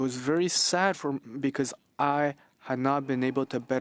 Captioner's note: speaking French